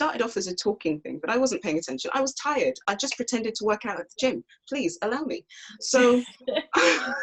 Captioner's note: laughs